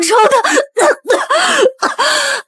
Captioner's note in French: Tousse